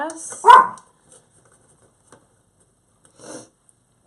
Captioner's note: dog barking